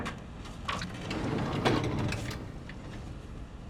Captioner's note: heavy drawer opening